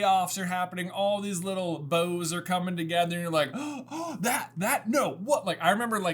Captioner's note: gasp